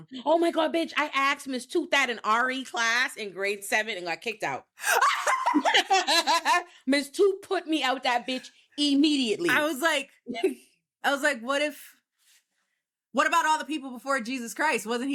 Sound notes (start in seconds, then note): 4.8 both laughing